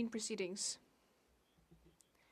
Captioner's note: speaking French